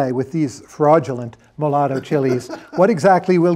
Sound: laughter

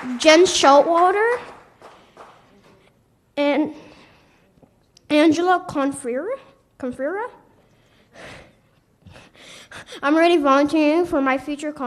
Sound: applause

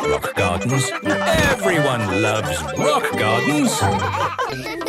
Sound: laughter

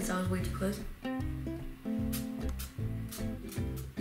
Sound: sprays

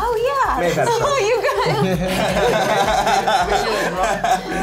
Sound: others laugh

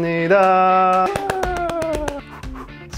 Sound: clapping

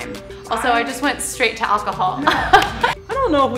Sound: laughs

